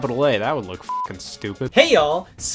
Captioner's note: beep